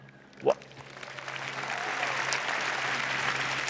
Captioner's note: applause